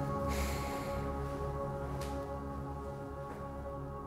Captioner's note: dramatic music; long sigh